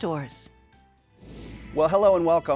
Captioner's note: graphics whooshing